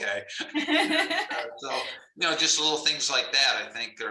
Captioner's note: laughter